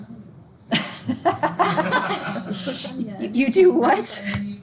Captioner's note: group laughing